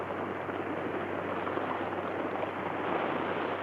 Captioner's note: water splashes